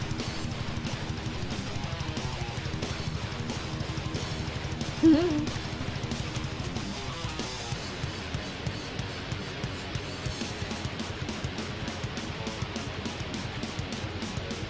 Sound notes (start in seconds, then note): 5.0 chuckles; 6.2 uptempo grungy rock music; 10.8 frenetic grungy rock music